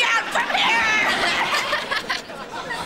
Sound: laughing

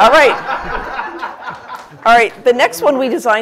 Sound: laughter

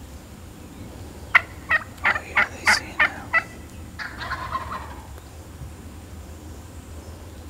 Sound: whispering

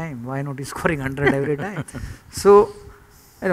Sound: laughter

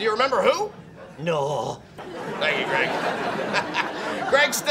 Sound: laughs

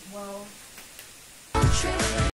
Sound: click of fingers and the lights turn off

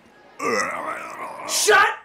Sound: makes strained groaning sounds

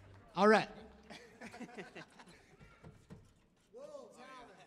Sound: band members chuckle

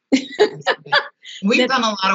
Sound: laughs

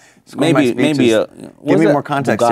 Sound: laughing

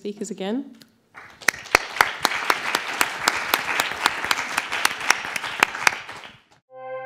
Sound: applause

